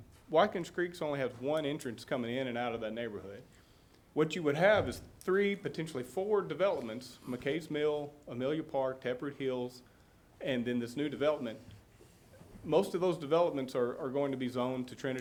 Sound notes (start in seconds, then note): none